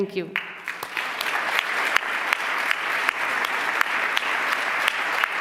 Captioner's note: applause